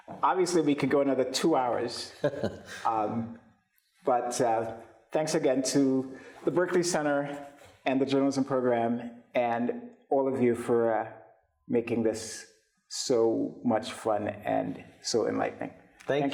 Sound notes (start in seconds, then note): 2.0 chuckles